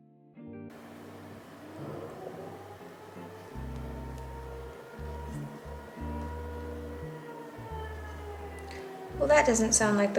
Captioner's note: faint siren in background